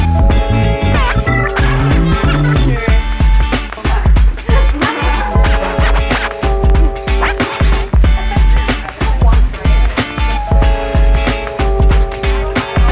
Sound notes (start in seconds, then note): 4.5 light laughter; 8.9 background conversations